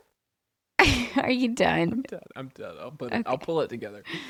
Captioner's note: laughs